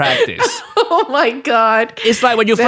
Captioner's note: laughs